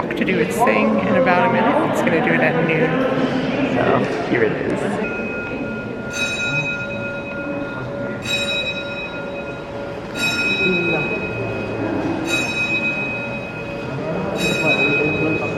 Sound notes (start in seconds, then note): 5.3 clock chimes